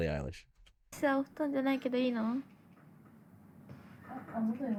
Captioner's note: speaking in foreign language